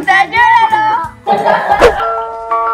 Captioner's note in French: rires